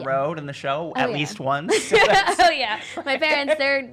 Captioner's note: laughing